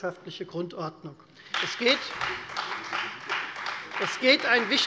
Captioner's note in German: Beifall Freie Demokraten